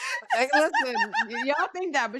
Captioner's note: laughing